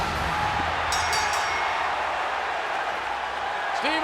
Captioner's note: audience cheering; bell rings